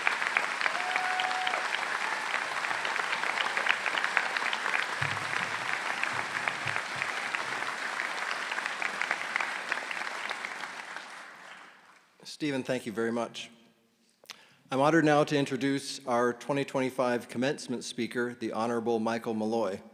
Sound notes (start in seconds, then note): 2.3 cheers and Applause